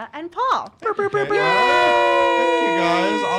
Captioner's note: everyone cheering